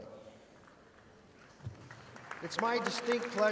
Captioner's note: audience applauding